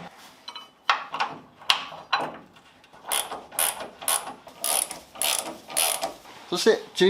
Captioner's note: working sound